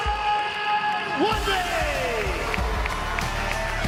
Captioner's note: cheering